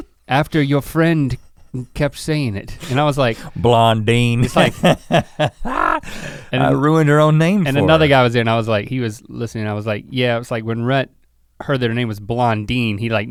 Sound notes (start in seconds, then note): 4.2 Rhett laughs; 4.3 chuckles